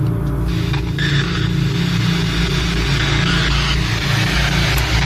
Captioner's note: static crackling